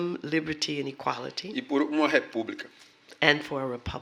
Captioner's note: speaking portuguese